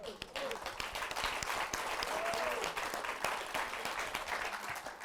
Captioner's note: applause